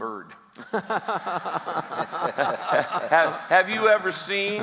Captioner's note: laughs